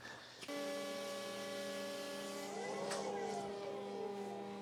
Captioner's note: forklift whirring